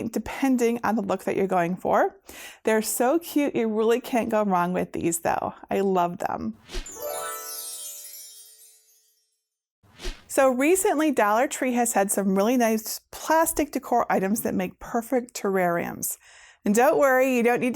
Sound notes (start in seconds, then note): 6.8 stars twinkling; 9.9 air whooshing